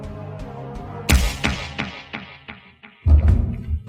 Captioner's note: resounding whack